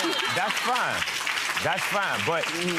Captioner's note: audience laughter